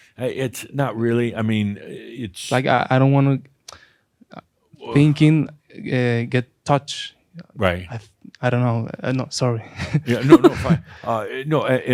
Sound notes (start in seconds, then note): 9.9 he chuckles